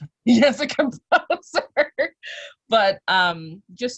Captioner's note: laugh